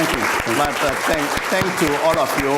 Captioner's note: applause